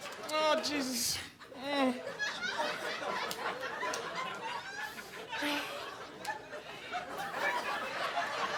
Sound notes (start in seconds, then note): 2.0 audience laughing